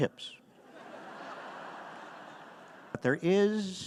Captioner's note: audience laughing